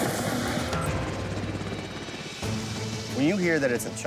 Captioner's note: helicopter rotors thump